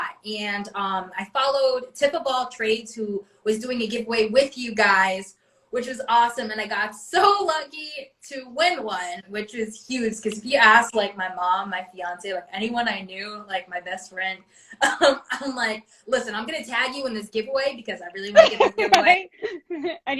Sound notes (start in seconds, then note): 15.1 laughs